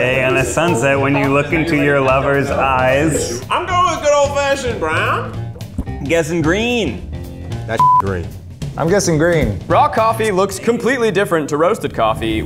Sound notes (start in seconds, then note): 7.8 beep